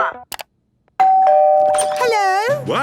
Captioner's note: doorbell ringing